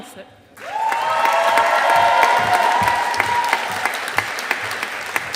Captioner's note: audience applauding